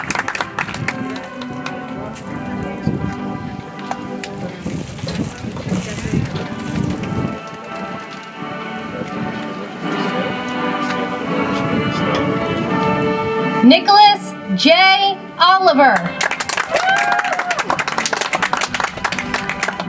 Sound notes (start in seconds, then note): 0.0 audience applauds; 6.5 soft music